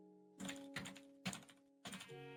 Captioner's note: music; typing